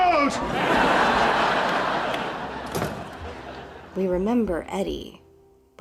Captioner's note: canned laughter